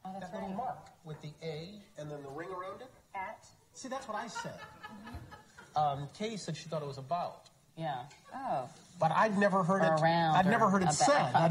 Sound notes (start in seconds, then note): 4.2 laughter